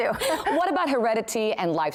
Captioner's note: laughter